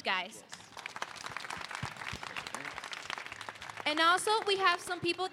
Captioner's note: applause